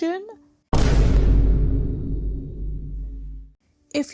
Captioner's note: BOOM sound effect